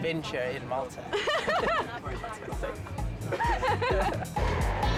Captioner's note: laughing; train rumbling